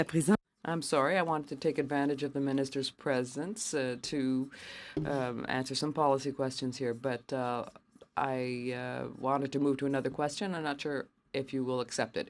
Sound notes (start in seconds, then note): 3.4 speaking French